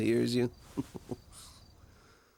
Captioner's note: chuckling